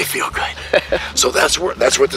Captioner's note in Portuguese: risos